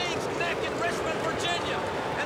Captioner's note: crowd cheering